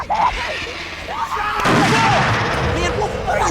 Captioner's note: screaming; gunshot